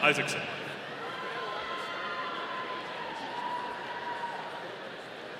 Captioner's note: audience cheering